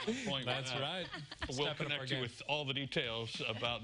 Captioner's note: laughter